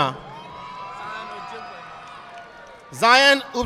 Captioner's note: audience applauding